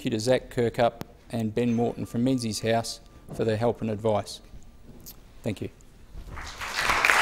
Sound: applause

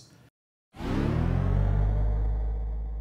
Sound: powering up sound

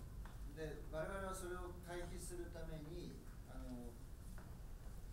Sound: speaking in foreign language

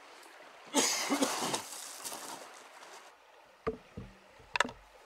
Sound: coughs loudly

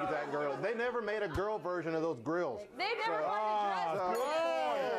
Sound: bell rings

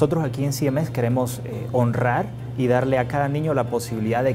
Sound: Spanish

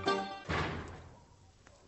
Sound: door closes

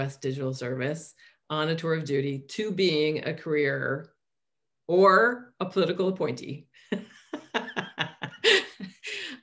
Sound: laughs

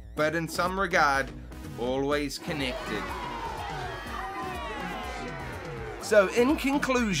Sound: applause and fanfare

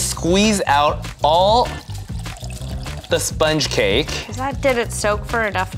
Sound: liquid trickling

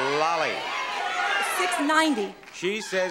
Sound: audience clamoring

